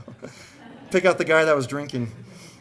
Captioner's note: audience laughing